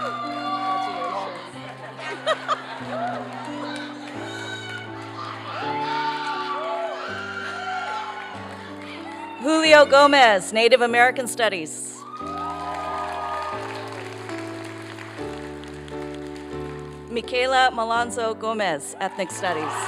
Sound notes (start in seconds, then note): 12.0 applause